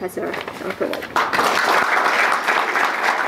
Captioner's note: applause